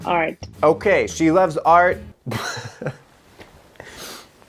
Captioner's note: laughs